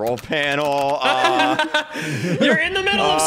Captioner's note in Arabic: يضحك